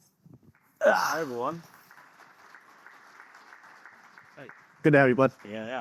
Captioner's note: audience applauding